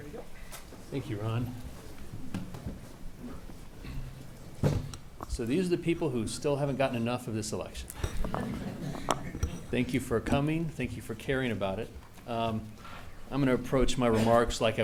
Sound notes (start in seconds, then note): 8.4 audience laughs